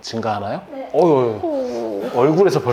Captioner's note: sob